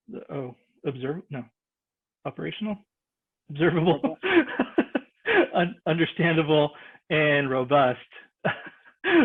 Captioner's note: laughs